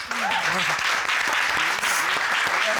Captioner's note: audience applauding